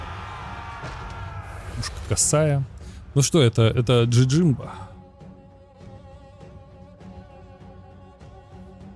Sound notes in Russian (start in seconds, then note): 0.0 крик